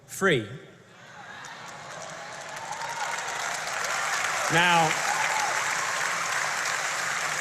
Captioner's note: applause